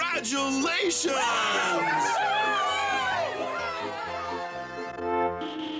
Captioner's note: cheering